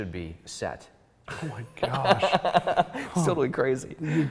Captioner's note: laughs